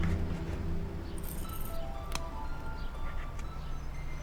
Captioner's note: key jingles